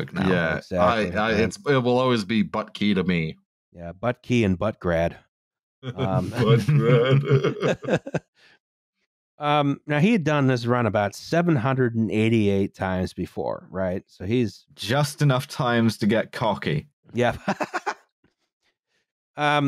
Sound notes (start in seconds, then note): 5.9 laughing; 5.9 laughter; 17.3 laughs